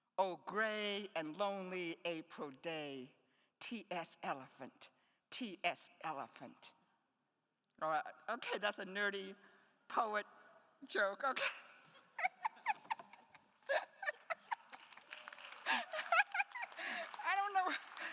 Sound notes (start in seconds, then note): 12.1 laughs; 14.1 attendees applauding